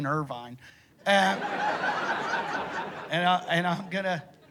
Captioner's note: laughter